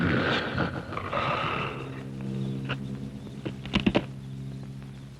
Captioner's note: growling